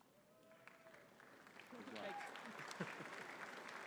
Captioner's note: audience clapping